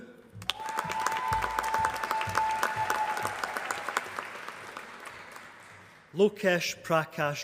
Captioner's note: applause